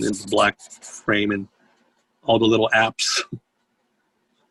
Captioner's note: giggles